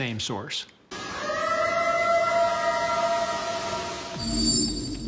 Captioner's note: eerie howl